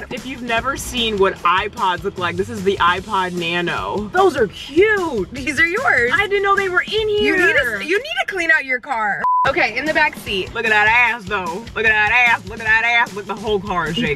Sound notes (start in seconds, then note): 9.1 high pitched beeping